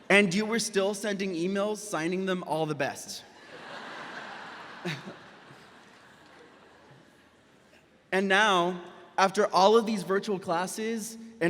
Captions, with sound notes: and you were still sending emails, signing them, "All the best." (audience applauds) (laughs) And now after all of these virtual classes